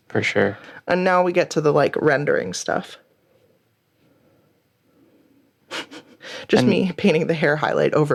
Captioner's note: chuckling